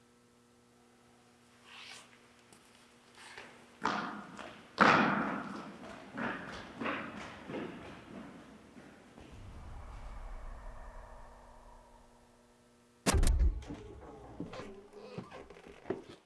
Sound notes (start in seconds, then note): 9.2 air whooshing; 13.3 static crackles